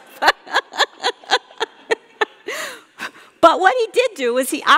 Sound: laughing

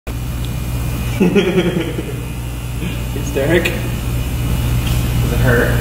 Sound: laughing

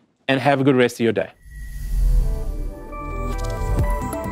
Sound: air whooshes; bright electronic music

